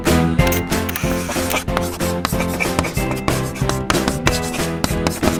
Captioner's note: chalk writing